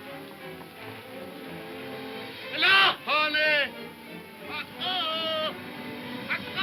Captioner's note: soft dramatic music; shouting in foreign language